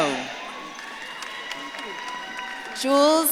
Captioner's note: audience claps and cheers